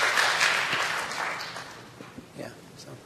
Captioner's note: applause